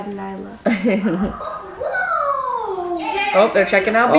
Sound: laughing

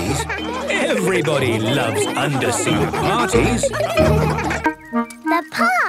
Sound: laughter

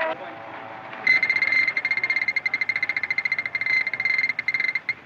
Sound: gate Clinking Open

